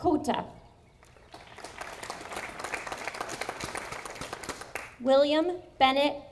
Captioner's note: audience applauding